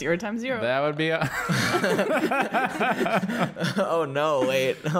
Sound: laughter

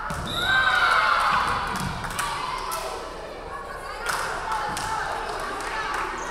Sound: referee whistling; crowd cheering

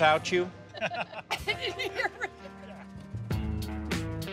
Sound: laughter

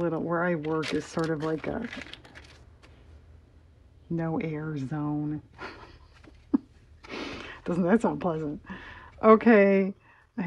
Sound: laughs

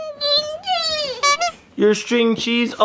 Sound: clown horn sound effect

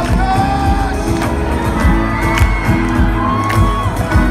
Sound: cheering

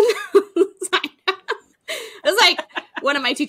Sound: both laughing

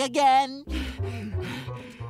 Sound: panting

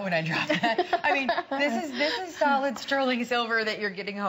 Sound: laughter

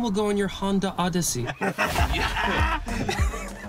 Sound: marcus and kian laugh

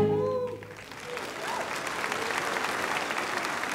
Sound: applause

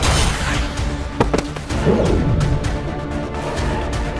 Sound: impact grunts

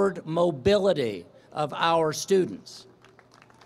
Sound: applause

